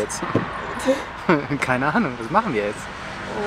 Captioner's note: laughs